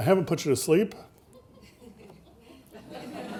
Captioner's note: audience laughing